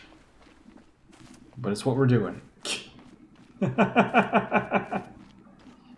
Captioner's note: laughs